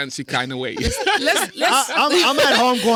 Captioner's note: laughter